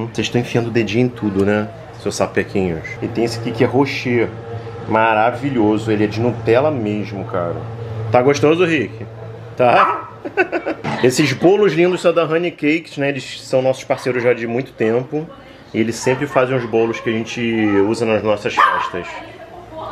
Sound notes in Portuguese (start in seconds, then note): 10.2 risos